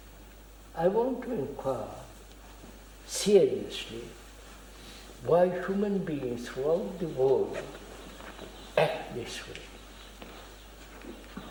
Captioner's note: laughs